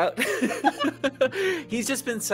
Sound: laughing

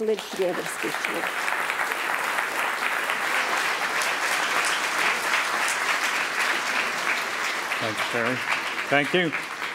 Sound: applause

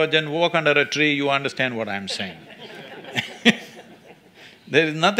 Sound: laughter

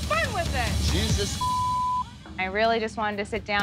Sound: beep

